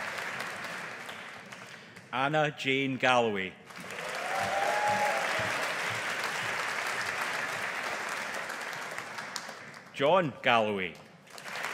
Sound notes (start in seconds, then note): 3.7 audience applauding; 11.3 audience applauding